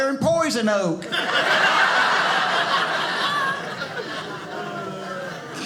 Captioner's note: audience laughing